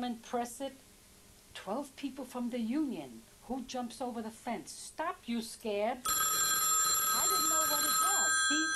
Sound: phone ringing

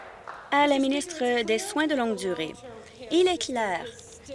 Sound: applause

